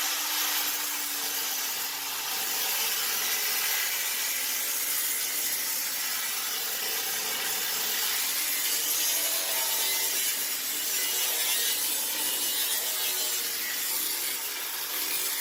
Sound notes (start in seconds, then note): 3.5 loud grinder noise